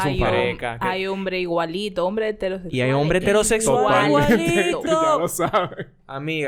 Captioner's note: laughs